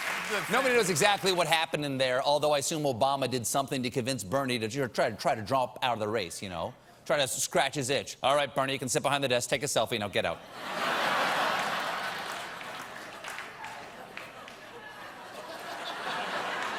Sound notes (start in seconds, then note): 10.4 laughter